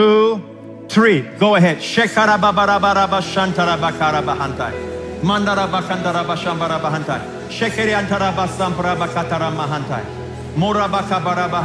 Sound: speaking in tongues

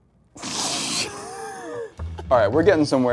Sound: laughs

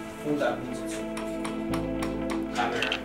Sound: metal banging

